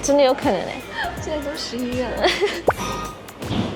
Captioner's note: laughing